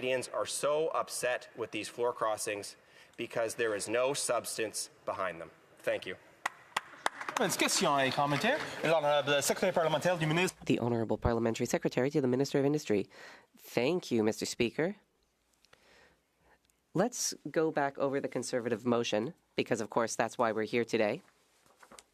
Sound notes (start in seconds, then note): 9.8 some Applause; 11.4 speaking French